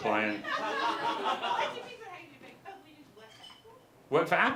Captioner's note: audience laughter